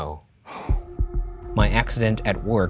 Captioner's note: exhales